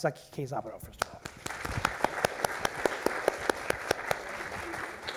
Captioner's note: applause